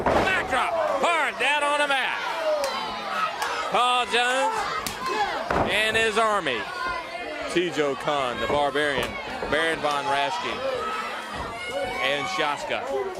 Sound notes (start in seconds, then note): 3.3 crowd cheering